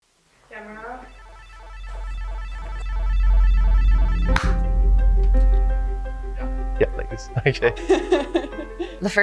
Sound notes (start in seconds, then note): 0.6 electronic noise; 7.7 chuckling